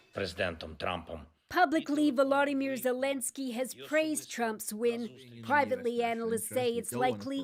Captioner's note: speaking alternate language